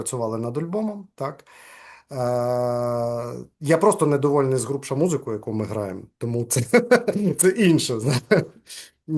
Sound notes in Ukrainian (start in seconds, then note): 6.6 сміється